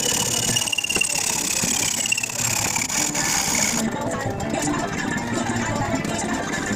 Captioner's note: sped up hacksaw noise